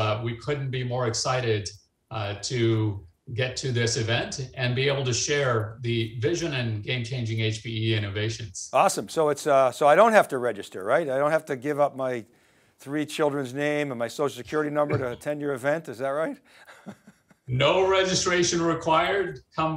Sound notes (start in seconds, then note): 14.8 chuckles